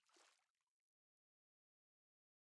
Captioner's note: splash